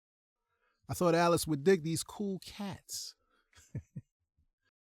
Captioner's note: chuckles